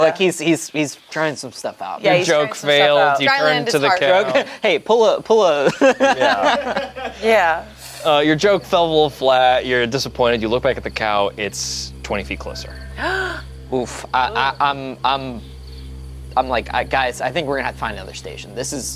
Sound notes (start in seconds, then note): 5.5 laughs; 13.0 gasps